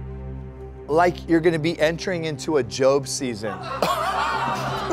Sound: laughter

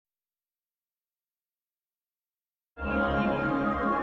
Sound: silence; digital synth music plays

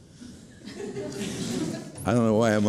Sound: laughing

